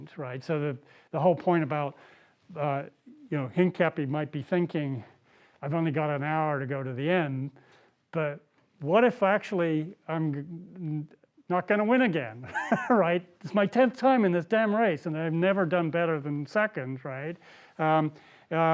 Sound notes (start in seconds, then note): 12.5 laughs